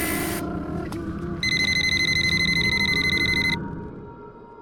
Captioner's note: phones ringing